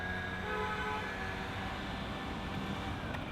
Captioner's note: leaf blower whirring; car honks